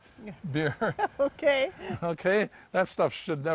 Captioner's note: laughs